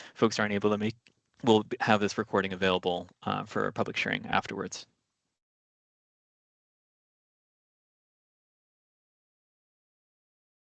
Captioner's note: pause